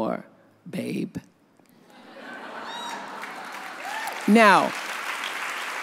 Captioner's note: audience laughs; audience applauds